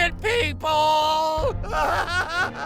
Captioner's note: laughs maniacally